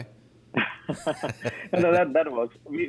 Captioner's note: laughing